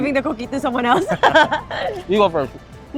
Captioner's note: laughs